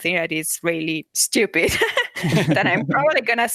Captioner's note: laughter